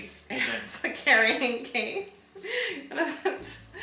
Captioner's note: laughs